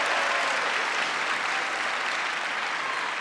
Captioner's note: applause